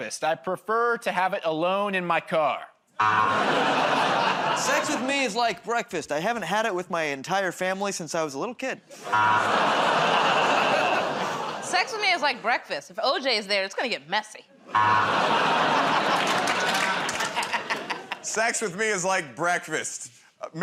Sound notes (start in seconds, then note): 3.0 buzzer; 9.0 audience "Oh"s; 9.1 buzzer; 14.7 buzzer